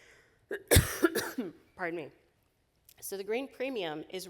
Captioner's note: coughing